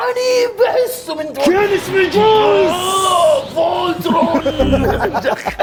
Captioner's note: roars; laughs